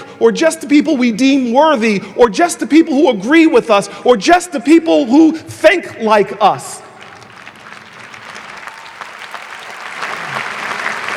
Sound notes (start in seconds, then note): 7.0 audience applauding